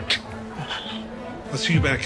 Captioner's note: sighs